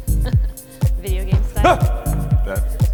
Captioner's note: laughs